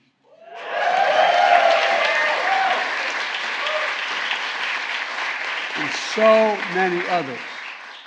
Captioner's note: applause